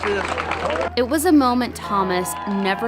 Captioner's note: cheers